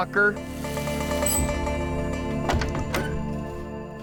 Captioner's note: shower turning off